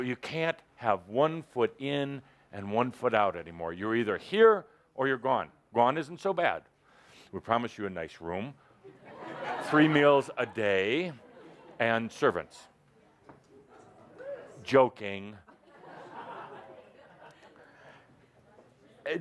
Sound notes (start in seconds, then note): 8.9 laughter; 15.4 laughter